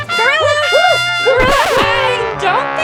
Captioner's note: tuba blows; record skips